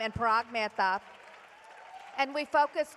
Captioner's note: applause